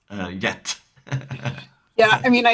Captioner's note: laughing